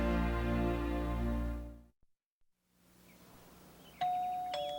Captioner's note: doorbell chimes